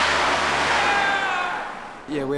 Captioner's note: yells